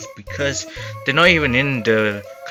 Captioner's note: inhales